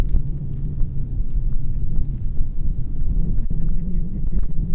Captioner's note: the wind noise is louder than I thought